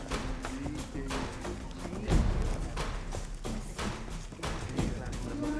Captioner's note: background chatter